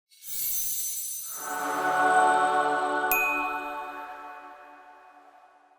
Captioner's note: shimmering sound; angelic chord